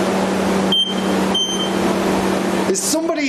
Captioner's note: device beeping